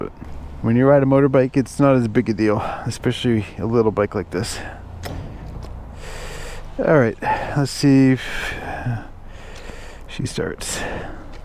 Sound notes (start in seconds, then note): none